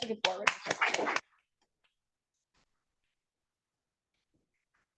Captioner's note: audience applauding